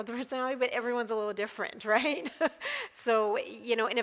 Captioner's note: laughs